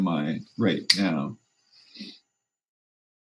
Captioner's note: snap